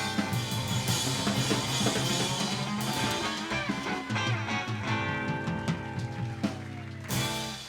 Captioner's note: clapping and cheering